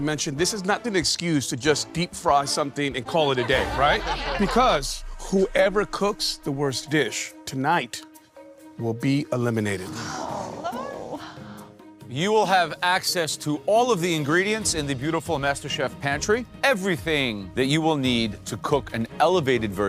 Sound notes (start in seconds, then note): 9.8 sighing; 9.9 murmuring